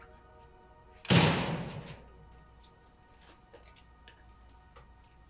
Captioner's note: door slamming